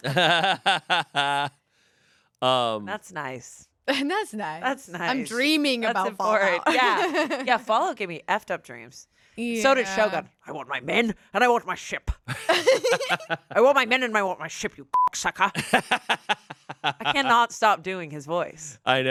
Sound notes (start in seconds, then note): 0.0 everyone laughs; 12.4 everyone laughs; 14.9 beep; 15.7 laughs